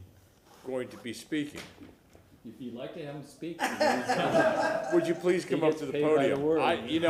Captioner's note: laughter